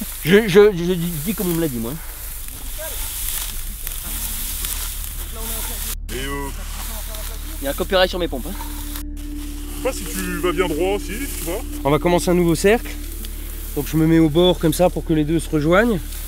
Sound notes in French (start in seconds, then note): 2.3 bruit de blé qu'on écrase